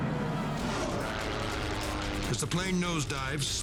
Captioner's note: airplane buzzing